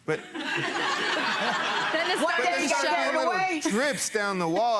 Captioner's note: people laughing